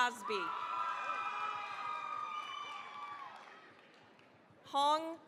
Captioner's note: cheering, applause